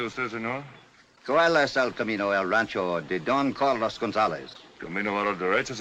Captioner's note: in spanish